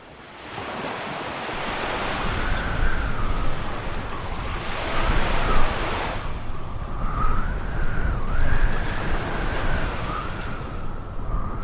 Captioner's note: Wind and silence on 4546B